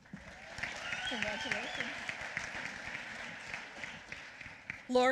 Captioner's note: applause